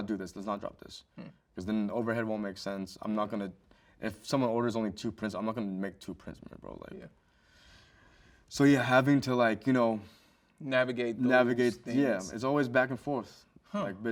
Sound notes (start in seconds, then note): none